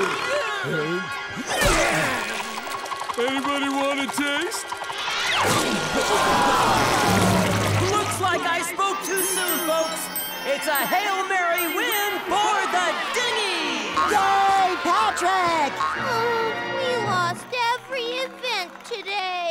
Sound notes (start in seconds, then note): 5.4 audience groaning